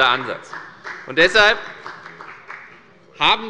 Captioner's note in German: Beifall bei der FDP